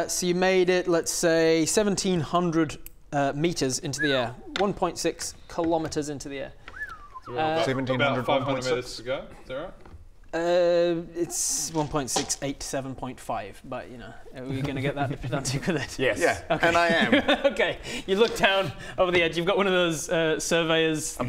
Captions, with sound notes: so you made it let's say 1700 metres into the air 1.6 km into the air - 1700 = 1.6? - so about 500 metres to go? Is that right? *stammers in terrible maths* it's 1.687.5 but y'know are we gonna get that pedantic with it? - yes - yes and I am okay you look down over the edge you've got one of those surveyors